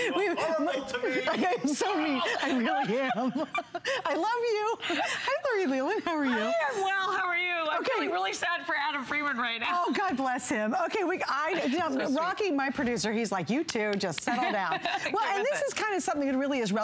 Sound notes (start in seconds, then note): 0.0 laughter